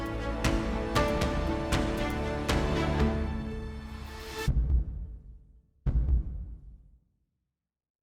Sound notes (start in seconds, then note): 0.0 inspiring music; 5.8 heart beating